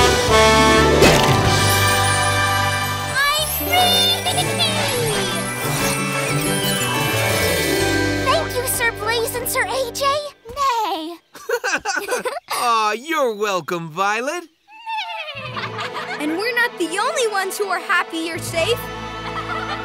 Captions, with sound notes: I'm free! Thank you, Sir Blaze and Sir AJ. Neigh. [laughing] Aww! You're welcome, Violet. [neighing] And we're not the only ones who are happy you're safe.